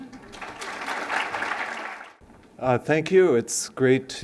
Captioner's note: applause